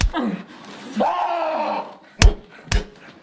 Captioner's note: sceams